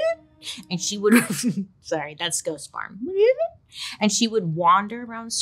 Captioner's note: laughs